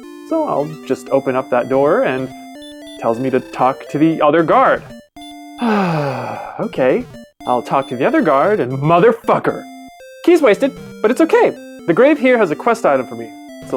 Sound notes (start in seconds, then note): 5.6 sigh